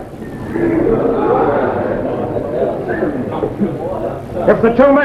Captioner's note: men chattering